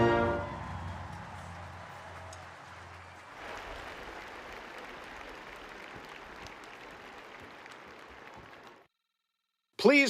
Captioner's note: applause